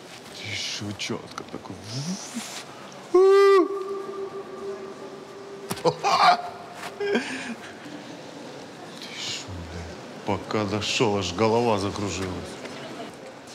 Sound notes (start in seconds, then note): 5.7 cracks and laughs